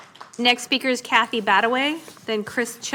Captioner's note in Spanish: Aplausos